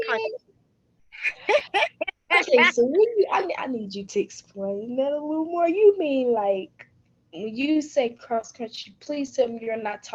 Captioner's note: laughing